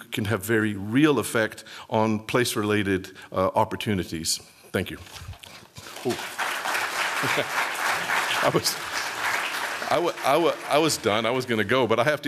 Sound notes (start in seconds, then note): 5.8 applause